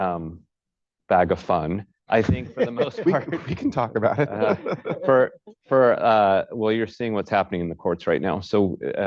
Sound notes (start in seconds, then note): 2.4 laughter; 2.5 laughs